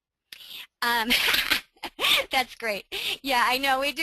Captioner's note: laughs